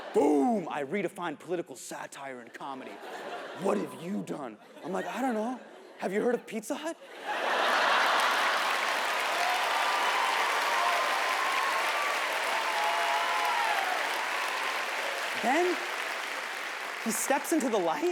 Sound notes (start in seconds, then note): 7.1 audience laughs; 10.2 audience cheers